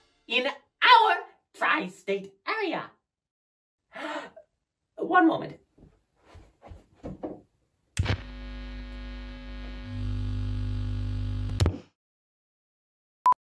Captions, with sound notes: in our Tri-State Area. One moment. *record player starting*